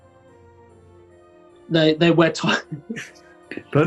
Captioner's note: giggles